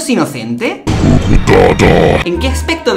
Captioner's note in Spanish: voz grave y demoniaca